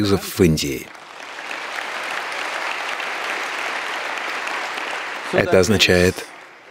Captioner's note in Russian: апплодисменты